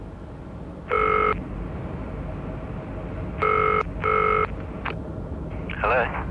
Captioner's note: dial tone